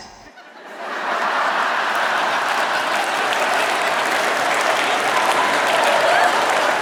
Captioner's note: laughter